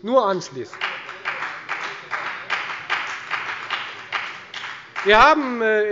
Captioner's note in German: Beifall bei der FDP